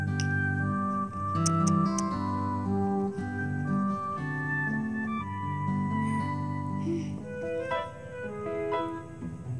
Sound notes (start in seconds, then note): 1.3 clicks tongue; 6.0 sighs